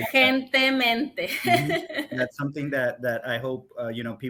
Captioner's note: speaks Spanish